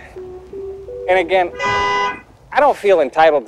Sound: car honks

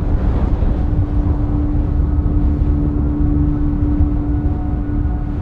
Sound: strong winds blowing

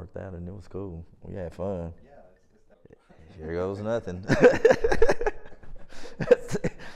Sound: laughs

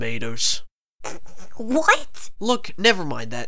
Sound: pfft

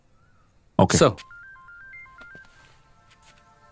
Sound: phone Ringing

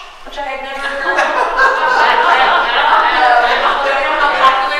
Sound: audience laughing; man laughing mockingly

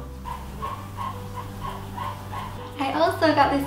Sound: neighbours sawing stuff

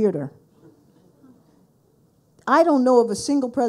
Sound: audience mumbles

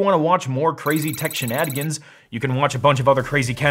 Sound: electronic beeping

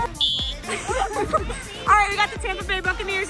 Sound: whistle blows

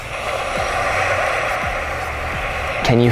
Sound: waves crashing

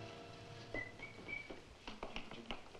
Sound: Sammy whistling

